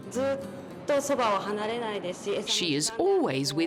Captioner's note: speaking in foreign language